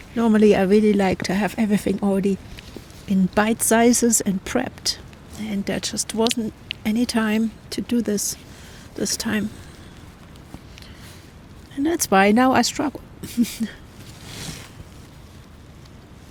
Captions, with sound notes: Normally, I really like to have everything already in bite sizes and prepped, and there just wasn't any time to do this this time. And that's why now I struggle. [laughs]